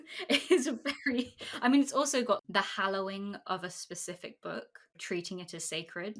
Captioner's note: laughing